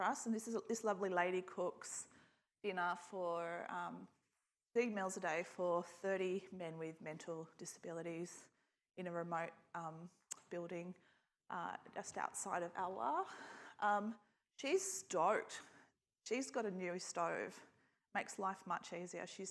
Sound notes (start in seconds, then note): none